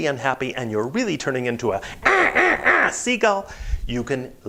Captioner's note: squawking